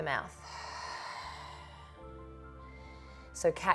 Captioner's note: exhales